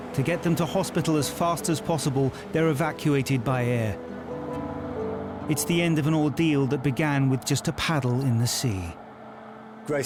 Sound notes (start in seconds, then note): 3.8 helicopter whirls